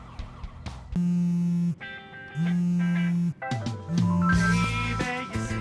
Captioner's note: sires wailing; cellphone buzzing